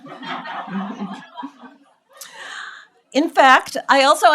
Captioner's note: audience laughs